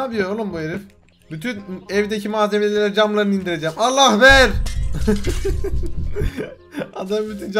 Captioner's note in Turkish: Gülme Sesi